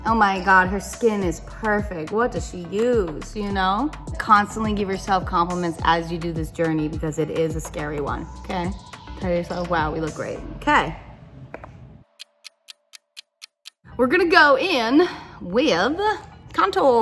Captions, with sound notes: Oh my God, her skin is perfect. What does she use, you know? Constantly give yourself compliments as you do this journey because it is a scary one, okay? Tell yourself, "wow, we look great." Okay. [clock ticks] We're gonna go in with contour.